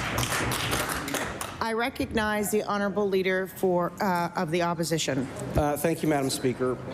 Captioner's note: applause